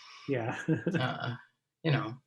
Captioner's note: laughs